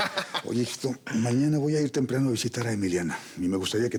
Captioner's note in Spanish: risas